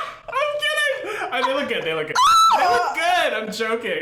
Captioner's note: screams